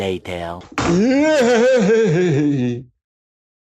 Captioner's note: nervous shouting